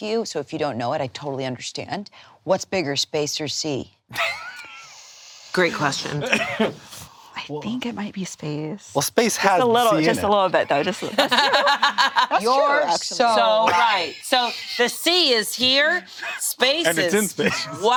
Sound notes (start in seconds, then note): 4.1 laughs; 10.8 laughs